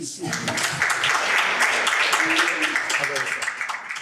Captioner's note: audience applauding